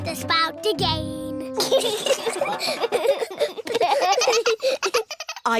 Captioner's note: all giggling